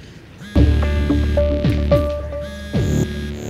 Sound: phone vibrating

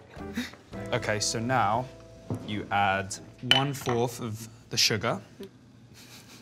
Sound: laughs

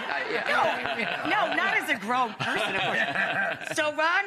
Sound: audience laughs

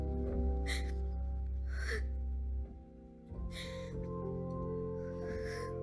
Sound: woman crying

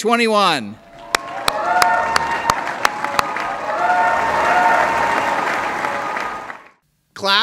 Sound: applause

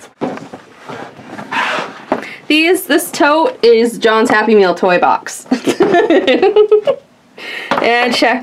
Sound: laughs

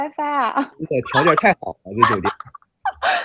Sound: teasing tone; teasing tone

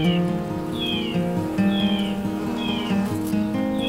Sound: bees buzzing

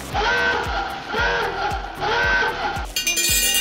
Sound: alarm ringing

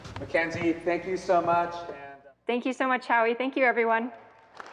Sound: audience clapping

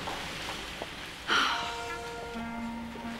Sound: sighs

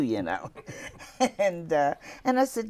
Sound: laughing

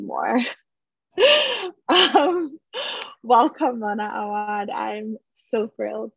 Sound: she chuckles

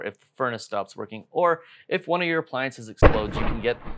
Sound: loud explosion

